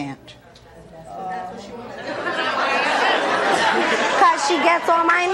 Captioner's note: audience murmuring